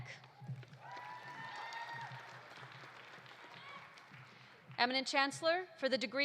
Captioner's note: audience applauding; audience cheering